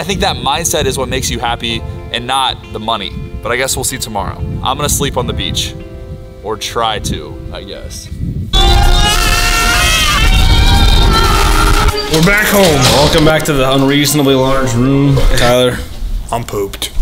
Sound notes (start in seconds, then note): 8.6 wild screaming